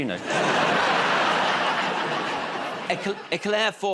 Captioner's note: laughter